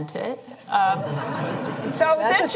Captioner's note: laughter